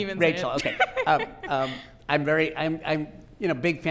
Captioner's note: laughing